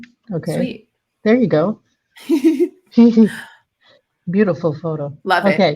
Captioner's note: chuckling